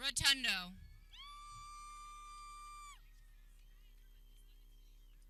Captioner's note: people cheering